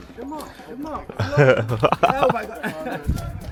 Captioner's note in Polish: laughs